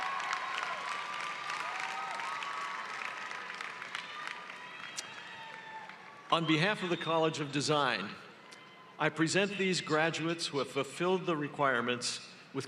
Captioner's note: cheering and applause